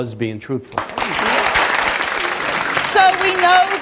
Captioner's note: audience applauds